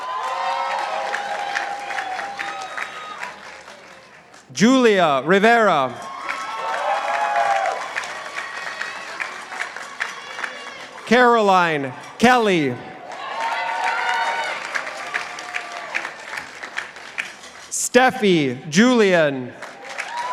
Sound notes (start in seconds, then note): 0.0 participants applauding; 6.9 participants applauding; 13.5 participants applauding; 20.1 participants applauding